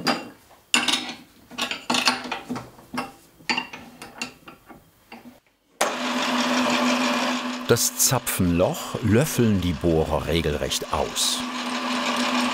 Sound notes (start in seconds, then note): 0.8 metal clattering; 5.8 motor starts